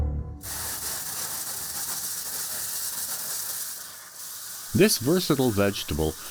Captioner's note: water spraying sounds